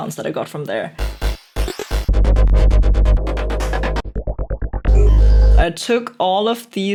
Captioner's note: various snapping and zapping